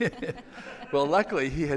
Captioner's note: laughing